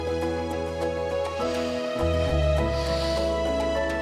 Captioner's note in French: sniffing